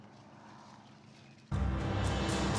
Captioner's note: footsteps